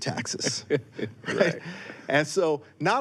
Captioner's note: laughs